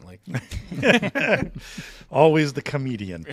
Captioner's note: all chuckle